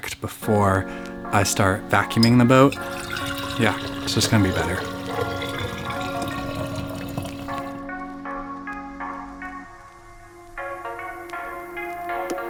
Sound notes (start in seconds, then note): 5.6 cocoa pours; 9.5 hip hop music